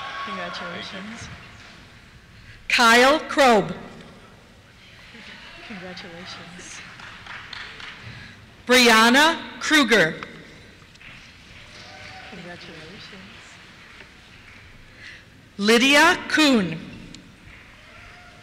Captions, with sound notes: Congratulations. - [Voiceover] Thank you. Kyle Krob. (cheers) Congratulations. Briana Krueger. (cheers) Congratulations. Lydia Kuhn. (cheers)